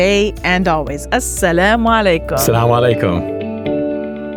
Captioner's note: both speaking Arabic; soft bright music